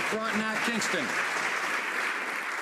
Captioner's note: some Applause